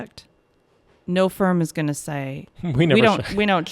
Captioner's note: laughs